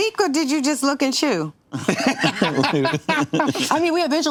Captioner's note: laughter